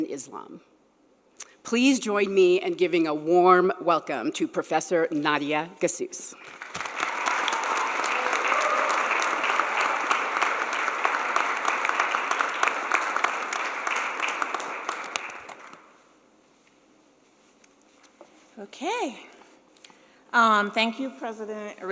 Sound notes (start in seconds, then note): 11.5 applause